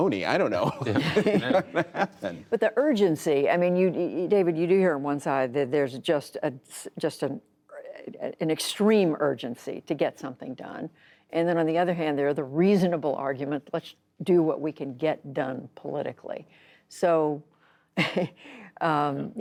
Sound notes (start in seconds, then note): 0.6 laughter